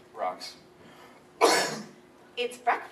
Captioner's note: coughs loudly